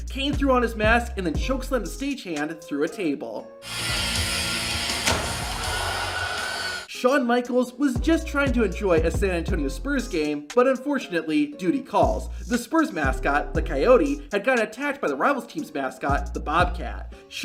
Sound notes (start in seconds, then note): 5.7 audience gasping